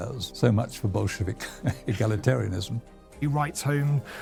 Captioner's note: chuckles